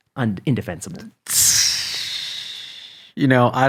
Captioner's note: hisses